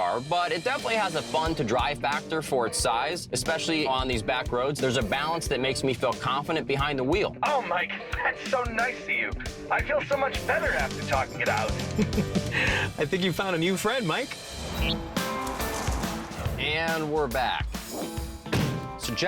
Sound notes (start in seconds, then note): 11.4 laughs